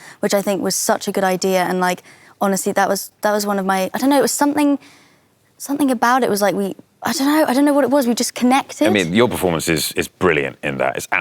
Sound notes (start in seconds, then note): none